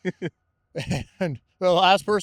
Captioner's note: laughing